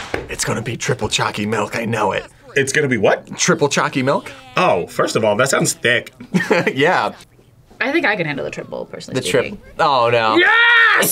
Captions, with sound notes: - It's gonna be triple choccy milk, I know it! - It's gonna be what? - Triple choccy milk. - Oh, first of all, that sounds thick. - (laughs) Yeah! - I think I could handle the triple, personally speaking. - The triple, oh no! - Yes!